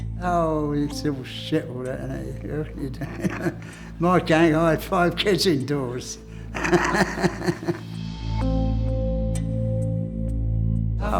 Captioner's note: laughs